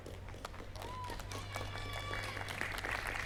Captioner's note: applause